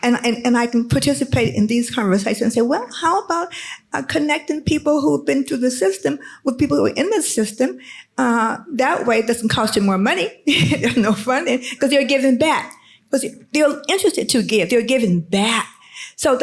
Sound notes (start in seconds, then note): 10.9 laughs